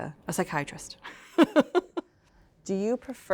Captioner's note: laughter